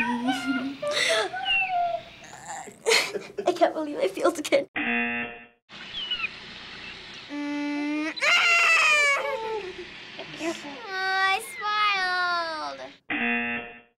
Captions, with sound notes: (giggling) (laughing) - (FBE laughing) - I can't believe I failed again. (buzzer) (monkey squeaking) - Mmm. (squealing) MMMM! Aww, I smiled! (buzzer)